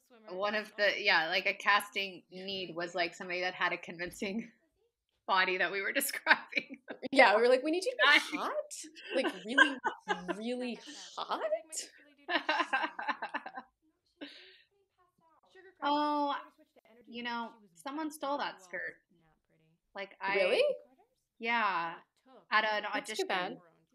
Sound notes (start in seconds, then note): 12.6 laughter